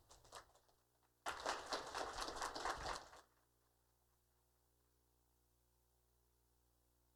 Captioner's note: applause